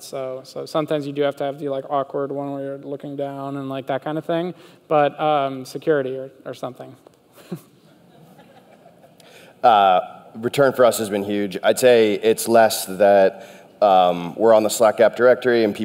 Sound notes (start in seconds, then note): 7.8 audience laughter